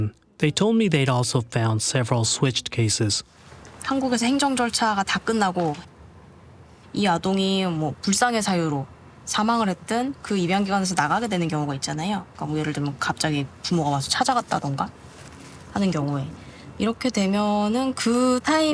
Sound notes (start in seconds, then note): 4.9 speaking Korean